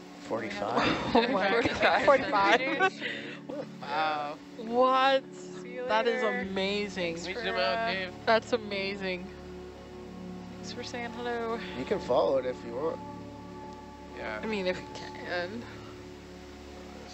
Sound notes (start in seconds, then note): 1.5 divers chattering; 9.6 gentle music